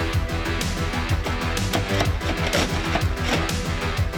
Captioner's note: tool scraping